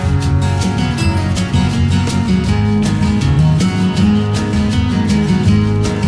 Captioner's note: clap